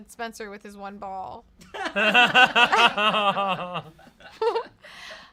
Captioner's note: everyone laughs